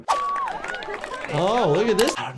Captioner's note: people shouting